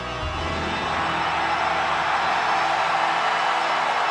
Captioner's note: audience cheering